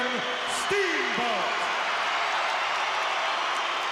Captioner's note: crowd cheers